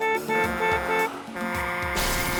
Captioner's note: honks horn; truck horn blares; tyres screech